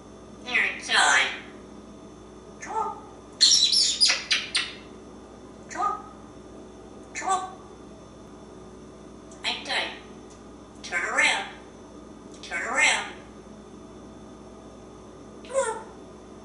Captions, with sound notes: You´re silly, Einstein! C´mon! [with smooches] C´mon! C´mon! Einstein! Turn around! Turn around! C´mon!